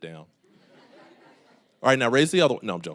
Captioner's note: audience laughing